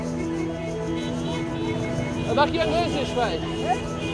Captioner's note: speaking Arabic